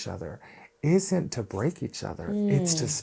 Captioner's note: hands rubbing